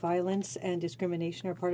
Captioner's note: speaking french